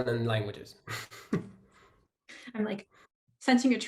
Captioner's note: chuckles